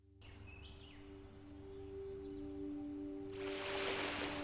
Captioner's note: waves crashing, birds chirping